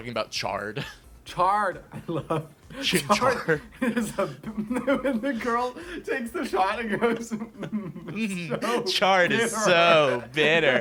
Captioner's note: starts laughing; both laughing